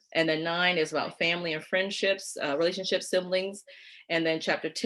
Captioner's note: none